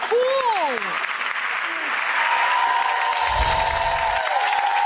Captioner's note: audience applauding